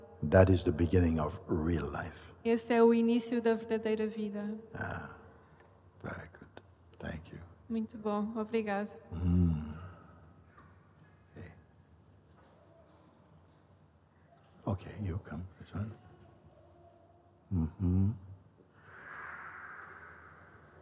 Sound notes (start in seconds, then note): 17.3 silence